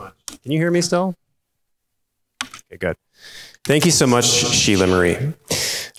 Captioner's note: none